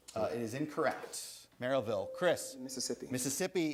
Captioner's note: buzzer sounds